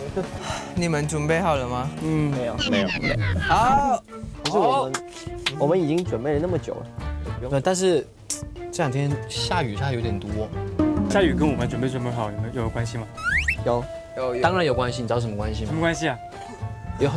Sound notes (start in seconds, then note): 4.3 applauding for you guys